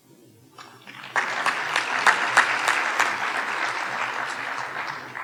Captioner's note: audience applauding